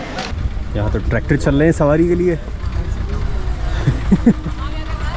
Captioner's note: chuckles